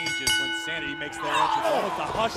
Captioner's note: bell dinging